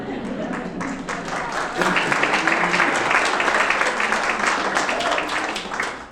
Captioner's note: audience laughing and clapping